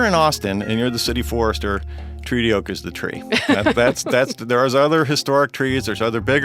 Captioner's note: laughs